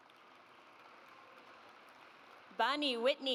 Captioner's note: audience applauds